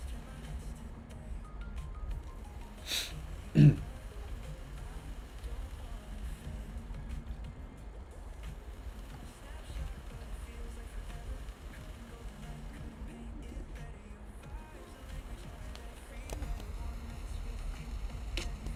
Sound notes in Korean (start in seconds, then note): 2.8 콧방귀; 3.5 목을 가다듬음